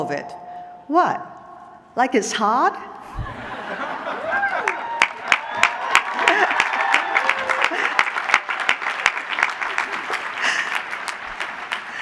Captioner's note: applause